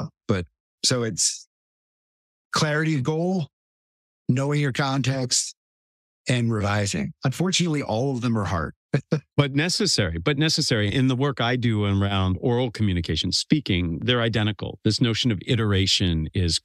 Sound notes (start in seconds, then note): 8.9 laugh